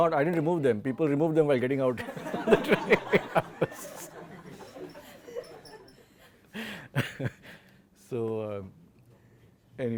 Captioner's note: laud laughter